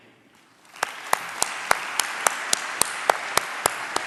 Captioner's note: applause